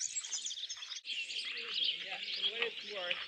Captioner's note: indistinct chatter